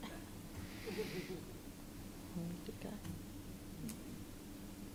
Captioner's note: laughter